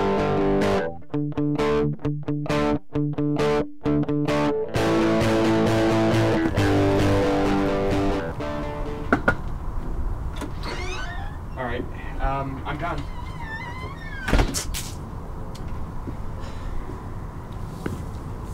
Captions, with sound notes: [knocks] [door opens] I'm done. [door closes] [spits]